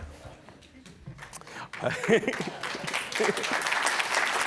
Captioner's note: applause